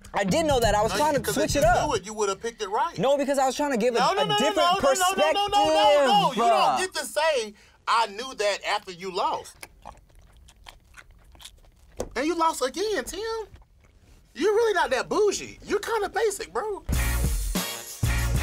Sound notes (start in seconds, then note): 8.7 chewing loudly; 16.8 hiphop music